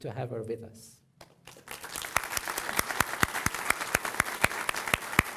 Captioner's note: applause